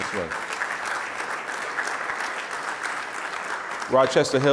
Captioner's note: audience applause